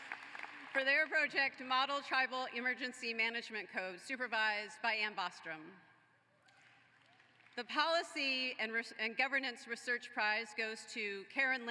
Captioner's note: applause